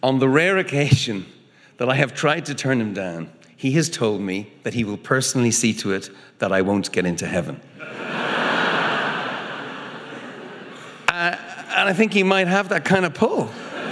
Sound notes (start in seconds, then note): 7.8 audience laughing